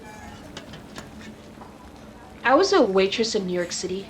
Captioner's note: none